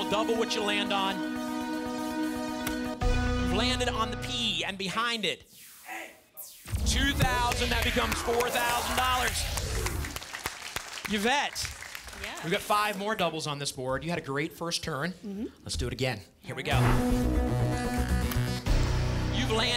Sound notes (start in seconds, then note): 9.4 audience applause